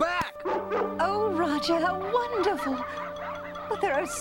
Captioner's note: barks